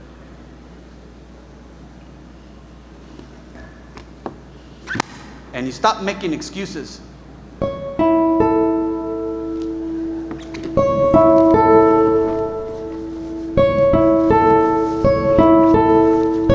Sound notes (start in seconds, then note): 4.9 hand slaps